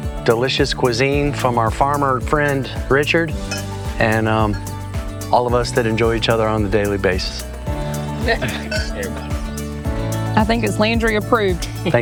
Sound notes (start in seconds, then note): 8.0 friends laughing; 11.1 laughing